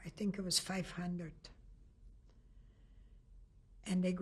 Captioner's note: pauses for 3 seconds